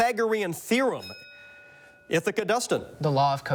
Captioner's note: bell dings